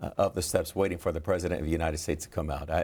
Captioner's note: laughs